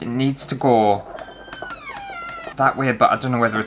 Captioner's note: door Creaking